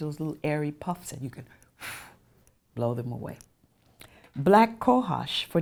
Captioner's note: blows air